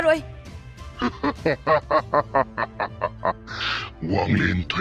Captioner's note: laughing